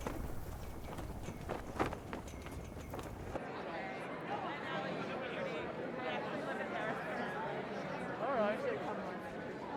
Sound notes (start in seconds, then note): 0.0 flag flapping; 3.1 people chattering